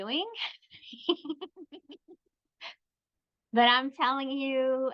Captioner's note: chuckles